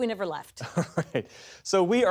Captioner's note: laughter